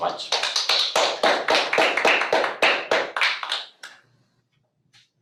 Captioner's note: audience applauding